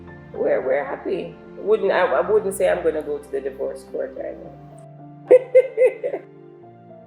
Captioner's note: laughs